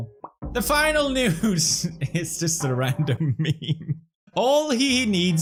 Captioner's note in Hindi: हंसी शुरू होता है